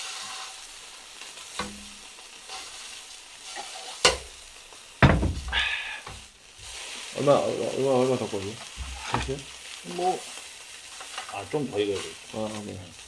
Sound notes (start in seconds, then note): none